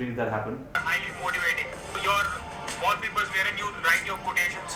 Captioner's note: video playing on phone